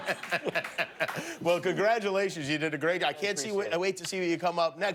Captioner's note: laughter